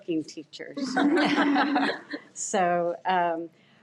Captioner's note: audience laughs